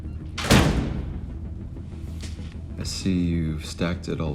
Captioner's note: door closes